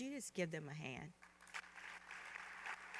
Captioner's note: applause